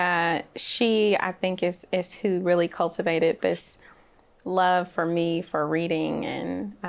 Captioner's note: none